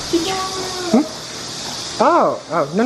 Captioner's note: speaking foreign language